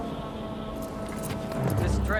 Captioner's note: wood clacking